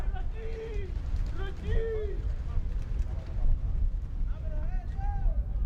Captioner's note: players yelling in foreign language